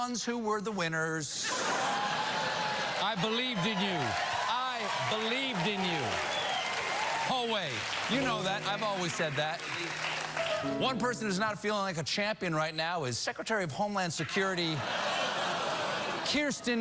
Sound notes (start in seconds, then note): 1.4 laughter; 7.0 applause